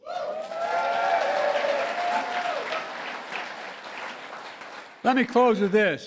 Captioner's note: applause